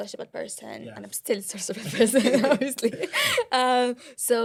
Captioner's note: laughter